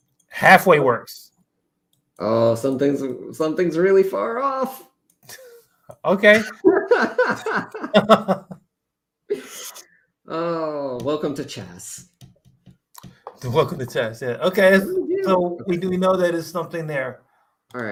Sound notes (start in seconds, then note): 6.3 laughter